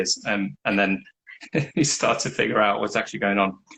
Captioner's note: laughs